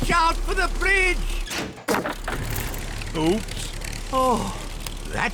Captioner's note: crunching